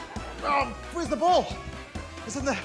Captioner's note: grunts